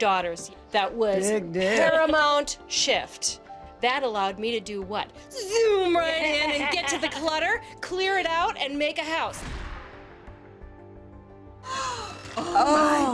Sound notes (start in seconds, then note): 11.0 gasps